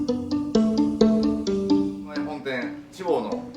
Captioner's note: music ends, as man begins speaking in Japanese